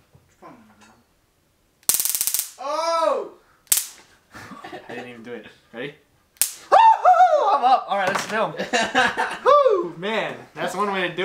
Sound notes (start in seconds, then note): 1.8 zappy sounds